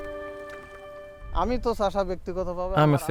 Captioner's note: foreign language